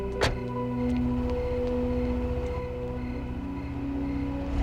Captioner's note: door closing; crickets chirping